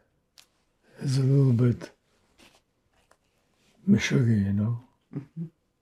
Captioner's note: yiddish